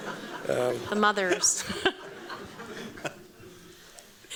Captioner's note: laughter